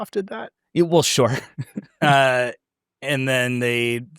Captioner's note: laughs